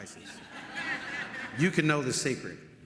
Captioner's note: audience laughing